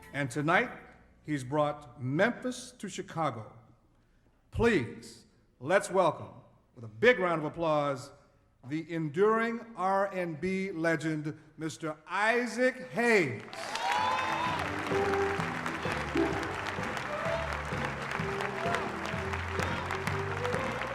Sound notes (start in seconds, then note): 13.4 crowd cheering and applauding; 17.3 upbeat blues music plays